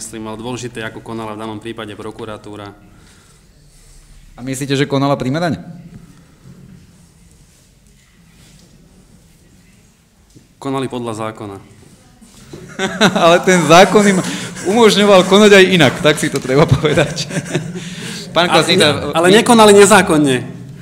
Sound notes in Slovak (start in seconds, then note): 12.5 smiech